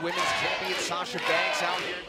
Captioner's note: fans chanting